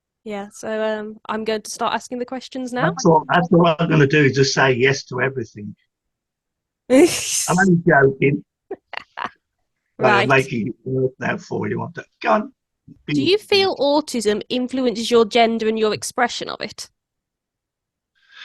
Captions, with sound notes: -Yeah so um I'm going to start asking the questions now. -Actually what I'm going to do is just say yes to everything. -[laughs] -I'm only joking. -[Laughs] -Making work now for you, aren't I? Go on! -Do you feel autism influences your gender and your expression of it?